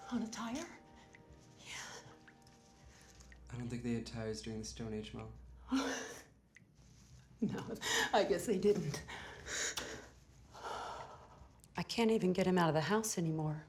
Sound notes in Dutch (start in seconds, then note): 10.6 zucht